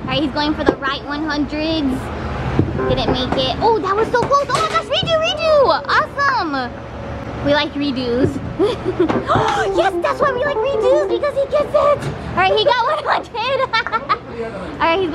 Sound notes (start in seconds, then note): 8.6 laughter; 9.4 gasp; 13.5 laughter